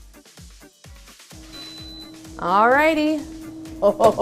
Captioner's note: air fryer beeping